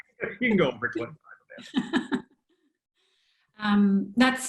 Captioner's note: laughter